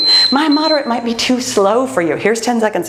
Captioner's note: timer beeps